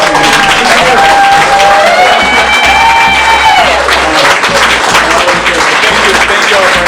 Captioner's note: cheering